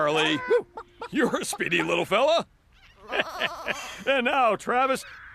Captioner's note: chuckles